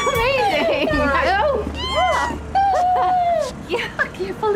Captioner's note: ellie squealing